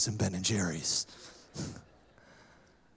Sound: laughter

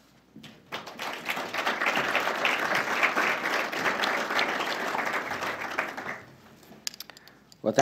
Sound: applause

